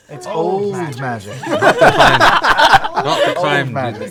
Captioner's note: laughter